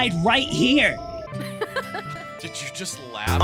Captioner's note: chuckles